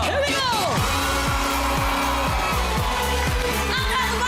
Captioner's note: theme music playing; audience cheering